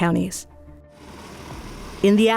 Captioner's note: helicopter